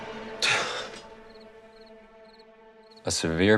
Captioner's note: sighs